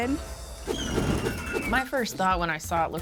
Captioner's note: wind whooshes; wheel screeches